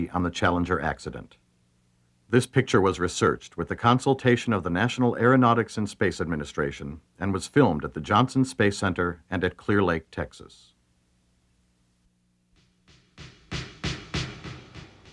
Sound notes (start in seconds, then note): none